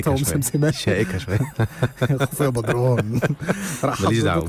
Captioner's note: laughs!